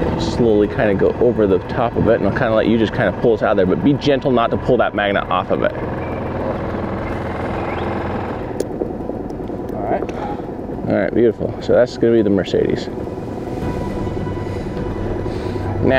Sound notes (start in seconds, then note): 7.0 boat motor revs; 13.4 dramatic music